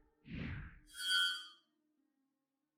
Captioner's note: metal scrapes